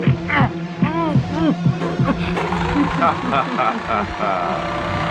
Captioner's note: muffled screaming